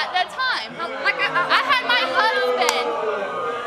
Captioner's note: audience jeering